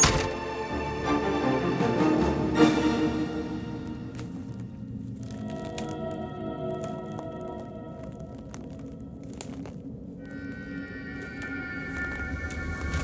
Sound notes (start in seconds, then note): 2.4 dramatic music; 3.8 footsteps crunching; 4.4 soft tense music